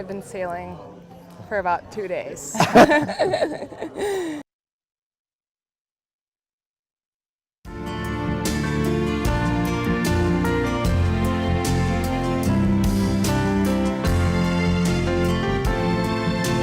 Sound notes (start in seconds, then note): 2.5 laughter